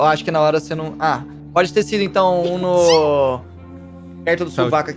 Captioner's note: sneezes